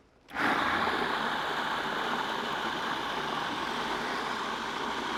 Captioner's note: food processor whirring